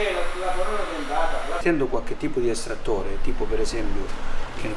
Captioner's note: italian - mechanic explains procedure